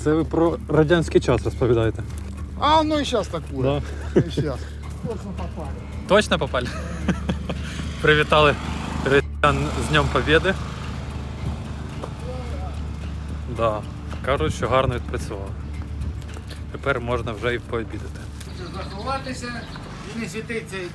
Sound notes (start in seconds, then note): 6.5 laughter